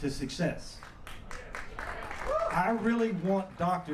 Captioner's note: applause